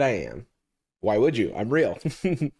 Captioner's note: chuckles